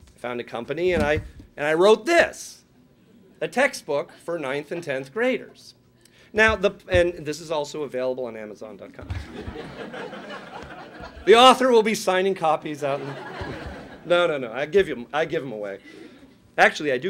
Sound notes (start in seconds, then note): 9.1 laughing